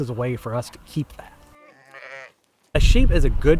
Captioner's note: sheep baaing